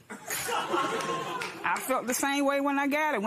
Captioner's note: laughter